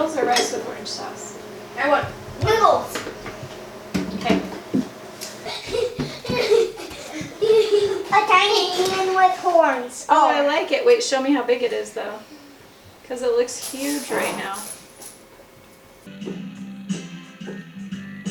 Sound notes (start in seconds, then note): 5.1 children playing and laughing